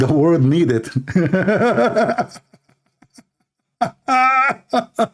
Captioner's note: Ketawa